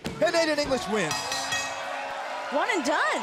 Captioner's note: bell ringing